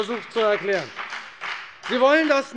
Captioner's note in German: Beifall bei der FDP